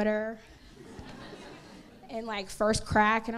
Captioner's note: crowd laughs